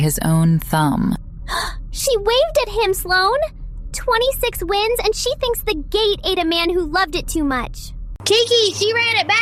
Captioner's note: gasp